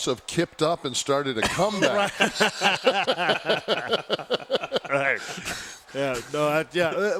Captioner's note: laugh